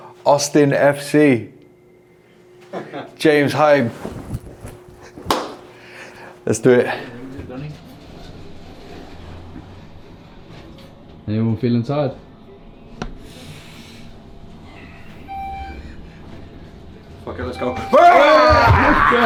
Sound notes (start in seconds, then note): 15.3 elevator dings